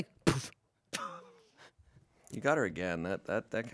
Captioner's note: laughs